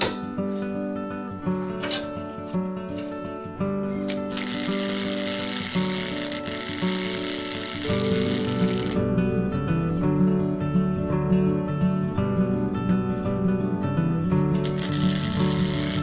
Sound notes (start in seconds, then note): 0.1 upbeat acoustic music; 4.0 welding; 10.1 upbeat acoustic music